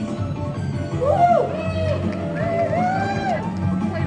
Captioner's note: cheering